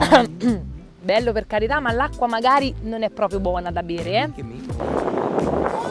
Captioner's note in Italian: Colpo di tosse